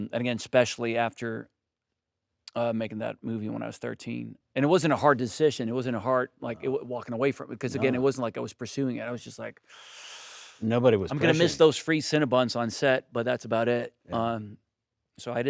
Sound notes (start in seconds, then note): 9.7 inhales